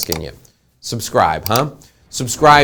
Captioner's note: clicking